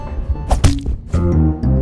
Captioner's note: Bonk